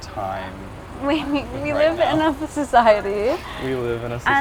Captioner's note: giggling